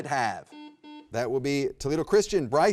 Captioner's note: button beeping